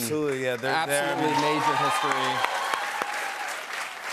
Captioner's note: cheers and applause